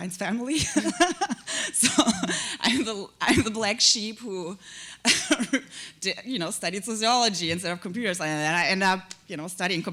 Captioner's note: laughter; chuckle